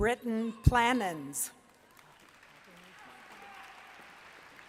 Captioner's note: applause